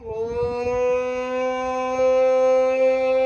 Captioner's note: howling